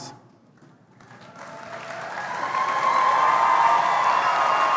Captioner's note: applause